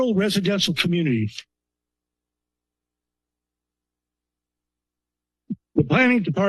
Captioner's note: pause